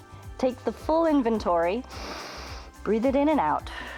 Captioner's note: inhales